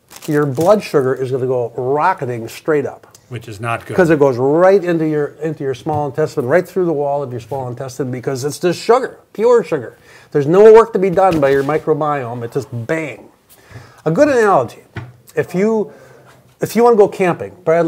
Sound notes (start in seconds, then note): none